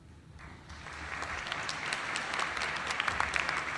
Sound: applause

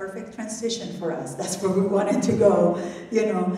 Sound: laughs

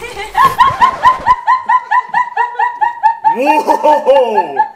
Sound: record scratching; laughing

